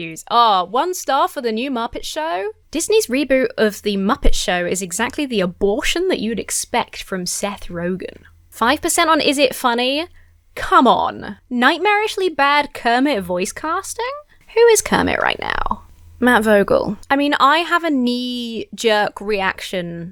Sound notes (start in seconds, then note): none